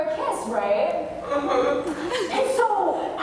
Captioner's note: whimpering